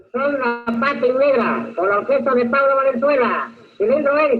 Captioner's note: non-english speech